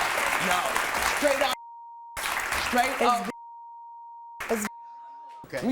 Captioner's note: beep